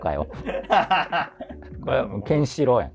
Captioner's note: laughing